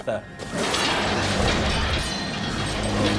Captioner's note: panther growling; metal rattling